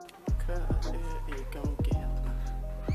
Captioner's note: confused